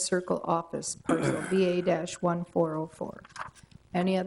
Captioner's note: man clears throat